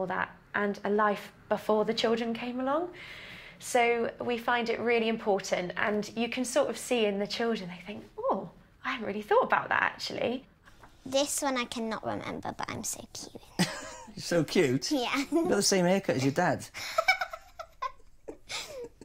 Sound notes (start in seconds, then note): 13.6 craig laughing; 16.9 lyla laughing